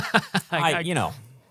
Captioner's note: laughing